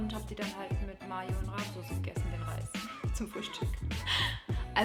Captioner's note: laughs